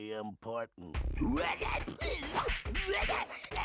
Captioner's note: gibbering